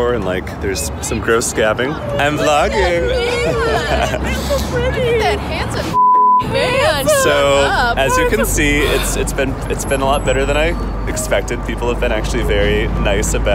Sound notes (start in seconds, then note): 5.9 beep